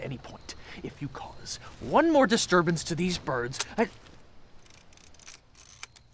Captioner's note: camera shutter clicks